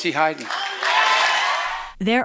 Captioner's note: cheering and applause